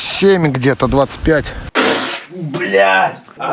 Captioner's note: spit